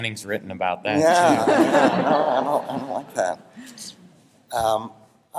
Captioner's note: laughter